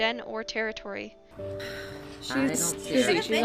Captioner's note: Eloise sighs